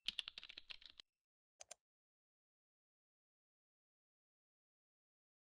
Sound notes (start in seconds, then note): 0.0 typing; 1.6 clicking